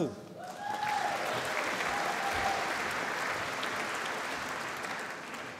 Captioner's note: applause